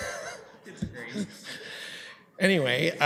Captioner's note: laughing